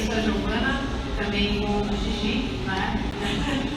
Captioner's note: laughs